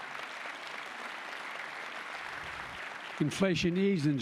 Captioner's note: applause